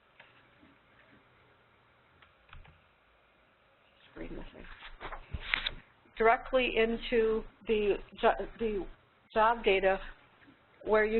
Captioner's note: long pause